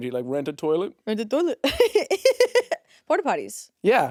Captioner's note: chuckles